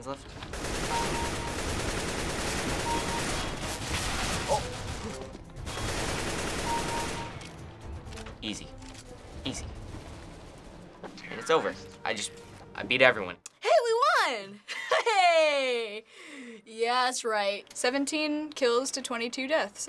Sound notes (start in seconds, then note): 0.3 kill chime; 0.4 firing; 2.9 kill chime; 5.0 kill chime; 5.6 firing; 6.3 reloading; 14.6 laughing